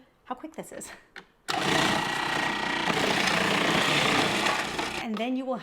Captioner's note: food processor grinding